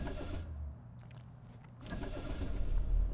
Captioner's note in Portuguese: barulho da ignição